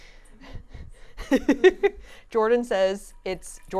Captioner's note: laughing